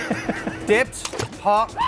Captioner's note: splash